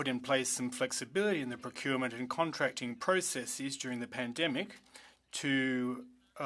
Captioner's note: speaking French